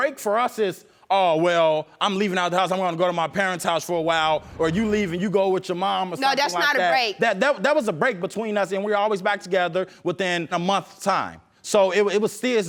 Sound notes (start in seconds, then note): 6.4 stuttering